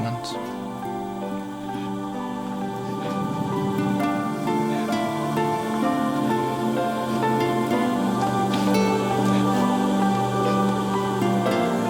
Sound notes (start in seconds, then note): 2.2 sad music; 6.9 crying